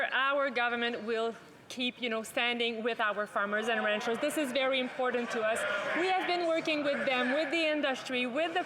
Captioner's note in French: voix de l'interprète